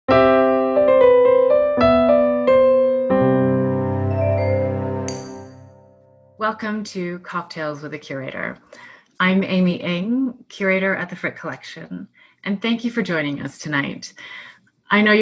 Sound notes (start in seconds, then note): 0.1 soft piano music; 5.1 glass clinks